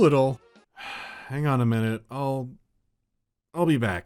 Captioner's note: sigh